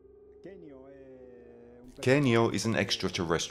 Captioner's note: speaking in foreign language